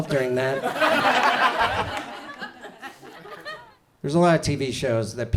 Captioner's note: audience laughs